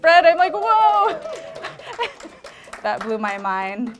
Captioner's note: applause